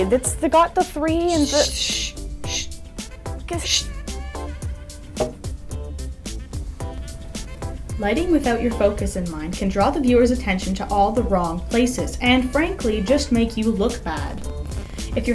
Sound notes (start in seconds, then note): 1.2 shushing; 8.1 voiceover